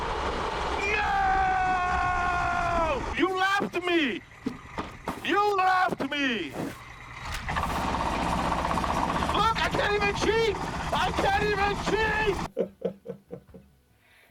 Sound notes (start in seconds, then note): 8.1 kart engine rattling; 12.8 laughs